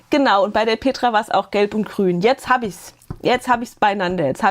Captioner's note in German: none